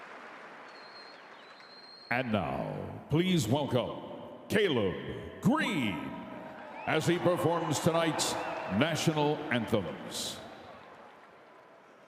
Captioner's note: cheering and Applause